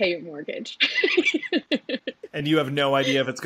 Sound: laughs

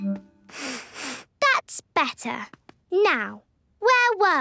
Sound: sniffs

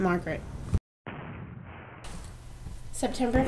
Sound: sounds of distant cannon fire

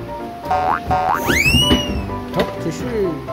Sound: a box pops out smoothly

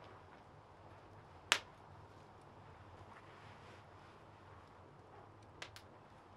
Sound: crackling fire

